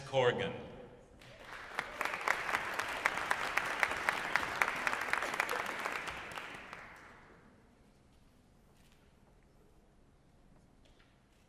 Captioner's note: applause